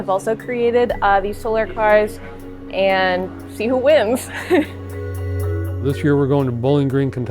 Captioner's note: chuckles